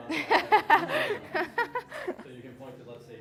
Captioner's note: audience laughing